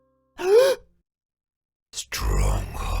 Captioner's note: gasp